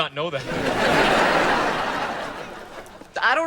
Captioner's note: audience laughing